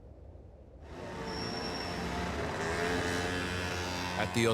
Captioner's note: engines humming